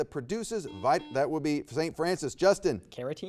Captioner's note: buzzer beeps